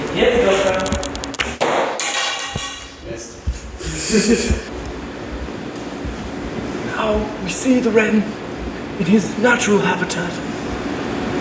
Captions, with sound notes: hit the gopro *thwack* *laughter, potentially that of a snake* Now you see the Wren, in its natural habitat